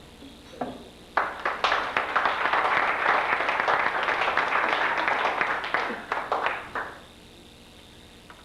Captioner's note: applause